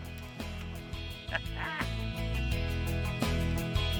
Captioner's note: laughs; guitar music playing